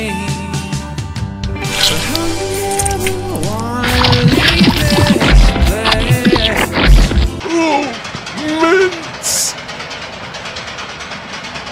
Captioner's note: cartoon squashing sound effects play over the previous music